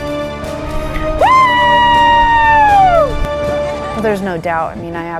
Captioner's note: cheers